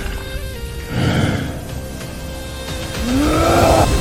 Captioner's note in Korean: 한숨